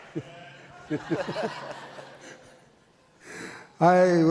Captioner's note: audience laughs